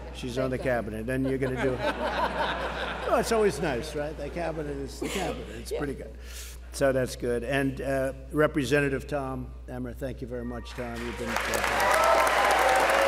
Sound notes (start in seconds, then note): 0.4 laughter; 12.3 applause